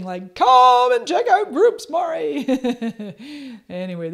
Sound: laughs

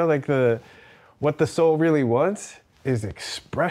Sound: none

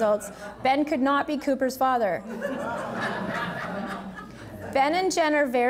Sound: audience laughing

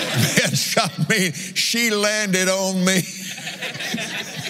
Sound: laughs

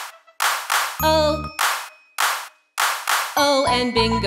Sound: clap; clap

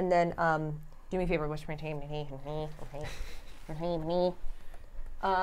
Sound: grumbles

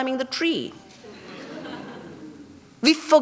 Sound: laughter

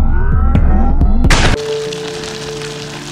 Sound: slam

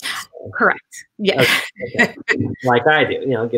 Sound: laughs

